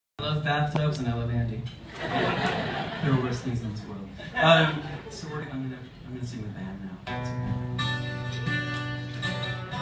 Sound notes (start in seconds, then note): 1.8 audience laughs